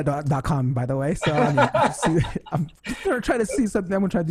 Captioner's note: laughs